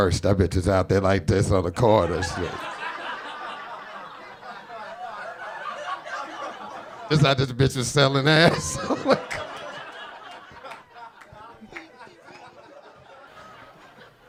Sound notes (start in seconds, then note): 2.7 audience laughing; 8.2 laughs; 9.6 audience laughing